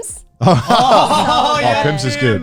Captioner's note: all laughing